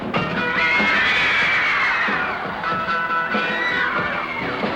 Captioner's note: girls squealing